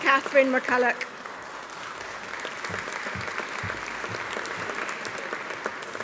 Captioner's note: audience applauding